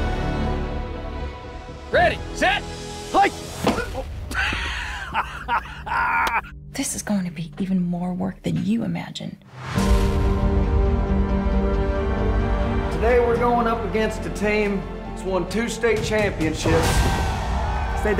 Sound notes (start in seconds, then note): 0.7 dramatic music; 4.3 laughing; 10.0 instrumental music swells